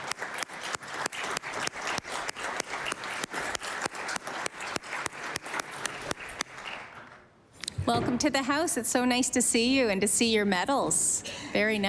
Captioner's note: applause